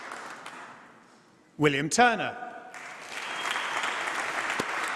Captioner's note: applause